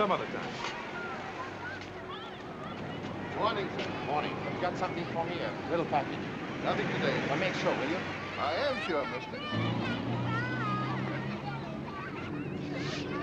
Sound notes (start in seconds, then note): 2.6 people chattering; 9.9 children chattering